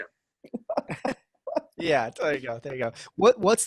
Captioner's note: laughing